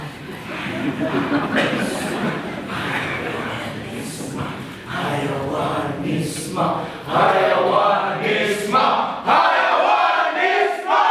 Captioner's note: Chanting: Animalism!